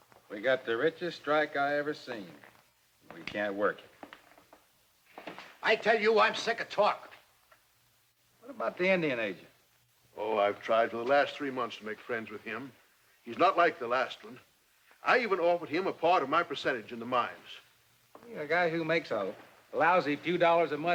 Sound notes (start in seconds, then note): none